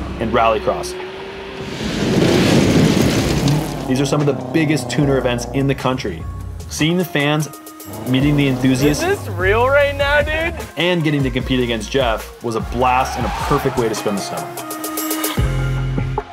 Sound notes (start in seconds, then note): 0.0 engines growl; 2.1 engine grumbles